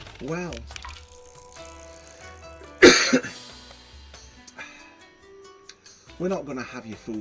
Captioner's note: cough, sorry, meant to clip it out